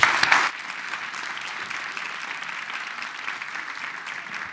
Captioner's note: applause